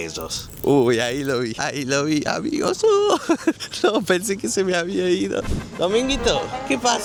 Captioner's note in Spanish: risas